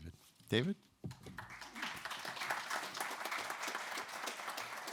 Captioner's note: audience clapping